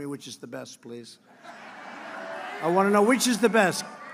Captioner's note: laughter